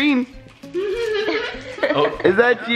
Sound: laughter

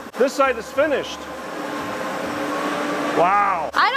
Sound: machinery whirring

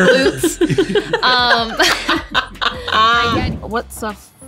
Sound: laughing

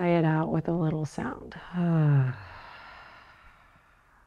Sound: sighs

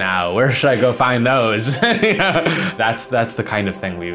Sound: laughs

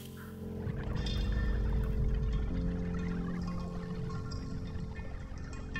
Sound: fantasy underwater sounds

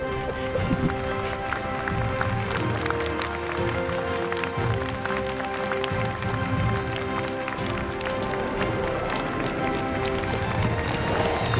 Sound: applause

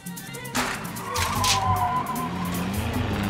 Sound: screeching tires

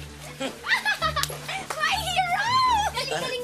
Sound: laughs

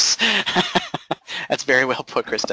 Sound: laughing

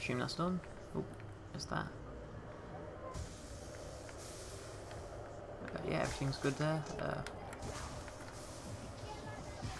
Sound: cool zapping sounds

